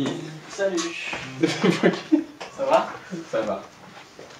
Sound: laughs

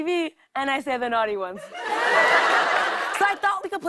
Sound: laughter

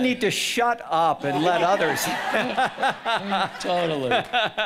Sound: audience laughing; laughing

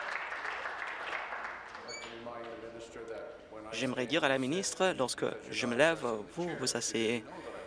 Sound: applause

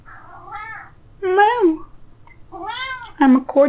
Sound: cat meows; cat meows

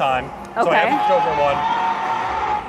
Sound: dinosaur roaring

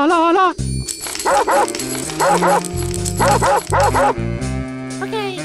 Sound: Chain-chomp bark

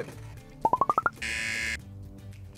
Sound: buzzer

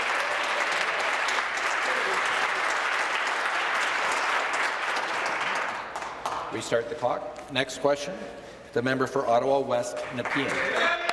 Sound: applause

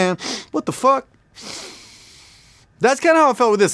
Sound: sniffs

